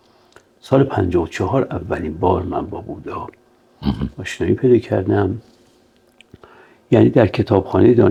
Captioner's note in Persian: گلویش را صاف می‌کند